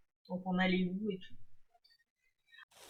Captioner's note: none